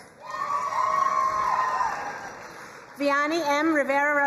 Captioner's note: crowd cheering and applauding